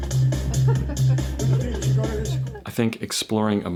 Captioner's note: woman laughs